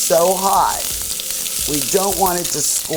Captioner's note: oil sizzling